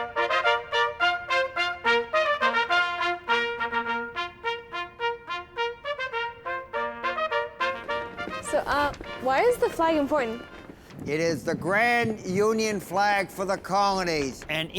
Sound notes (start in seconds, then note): 7.7 flag flapping in the wind